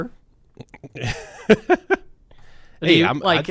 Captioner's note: laughing